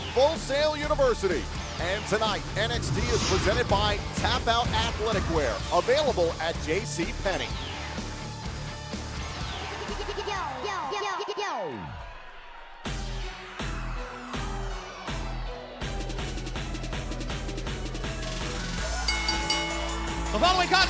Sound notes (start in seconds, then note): 18.9 bell ringing